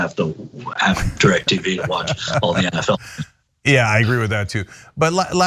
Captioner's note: laugh